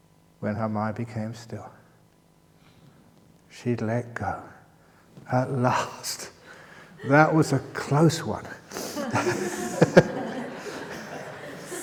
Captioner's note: laughter